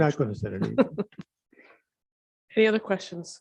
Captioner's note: laughs